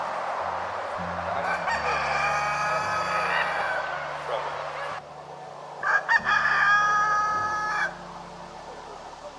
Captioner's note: rooster Crowing